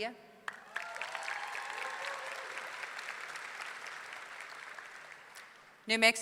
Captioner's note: audience clapping; audience cheering